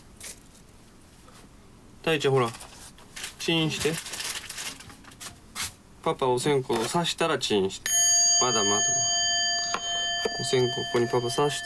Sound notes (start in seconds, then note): 7.8 bell rings